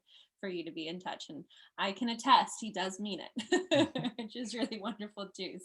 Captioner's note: laughs